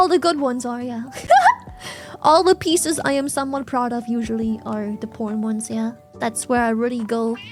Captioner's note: laughs